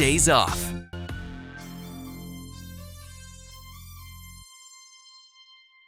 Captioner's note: high pitched whistling